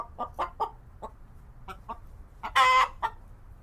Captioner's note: cluck, cluck, cluck